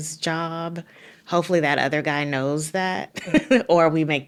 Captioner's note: laughing